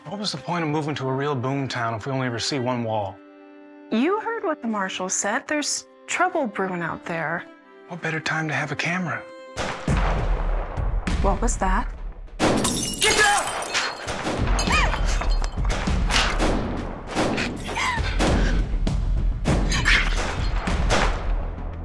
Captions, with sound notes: WHAT WAS THE POINT OF MOVING TO A REAL BOOM TOWN IF WE ONLY EVER SEE ONE WALL? YOU HEARD WHAT THE MARSHAL SAID. THERE'S TROUBLE BREWING OUT THERE. WHAT BETTER TIME TO HAVE A CAMERA? [GUNSHOTS OUTSIDE] WHAT WAS THAT? [GUNSHOT, WINDOW SHATTERS] GET DOWN! [GUNSHOTS CONTINUE] [MOLLIE WHIMPERS, GUNSHOTS CONTINUE]